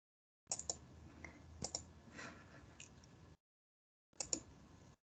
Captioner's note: mouse clicking